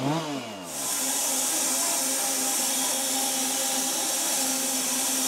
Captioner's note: saw whirring